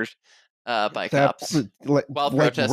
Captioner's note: stammers